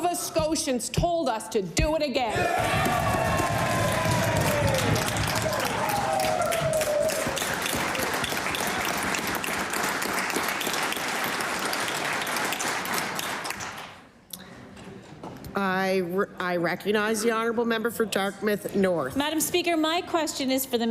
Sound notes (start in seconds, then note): 7.9 cheering and Applause